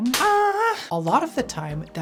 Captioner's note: moans